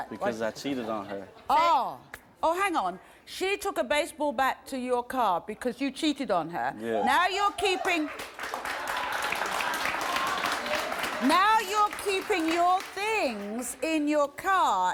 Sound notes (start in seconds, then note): 7.7 audience applauds